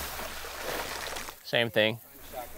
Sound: water splashing

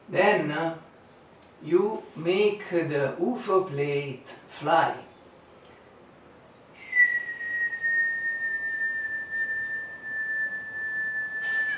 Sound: whistle

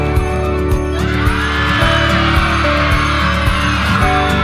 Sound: cheers

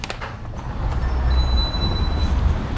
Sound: door chimes

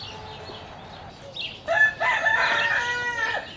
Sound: rooster crows

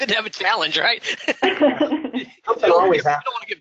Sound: laughing

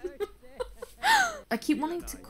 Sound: laughs

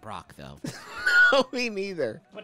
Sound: laughing

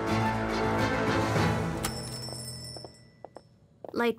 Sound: bell on door ringing

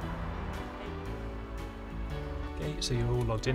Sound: traffic noises

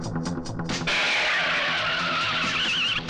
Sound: tires Screeching

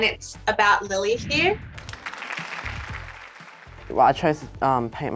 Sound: applause

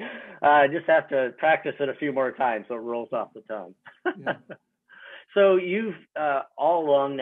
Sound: laughs; laughs

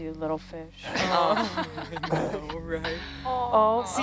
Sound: woman laughing

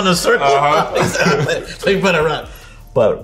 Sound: RJ laughs

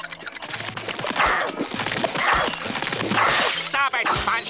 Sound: grunting

